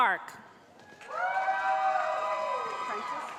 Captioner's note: cheering